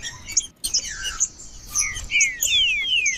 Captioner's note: trinca ferro cantando